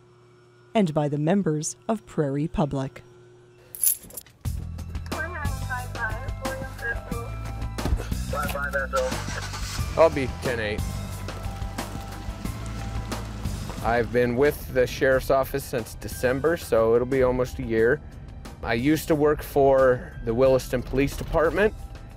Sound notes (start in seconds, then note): 3.9 woman speaks on the intercom; 7.8 man speaks on the intercom